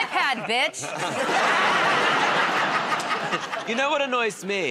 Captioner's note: laughter